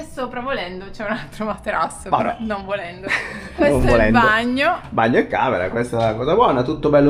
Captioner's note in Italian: risate